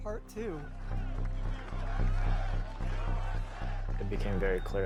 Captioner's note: people chanting